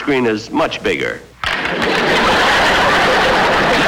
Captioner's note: audience Laughing